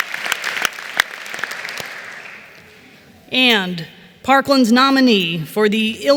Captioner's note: applause